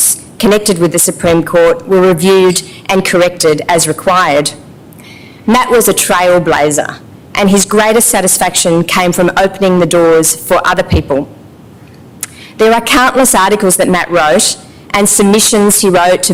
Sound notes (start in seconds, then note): none